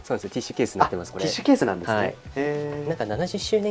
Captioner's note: laughs; laughs